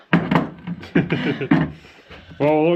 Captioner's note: laughing